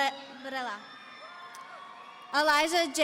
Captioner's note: audience cheering